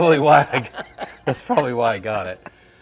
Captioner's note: laughing